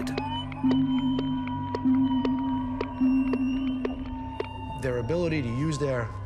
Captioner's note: sound pulses booming